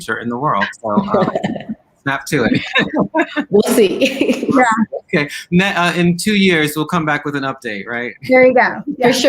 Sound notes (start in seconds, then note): 0.6 laughing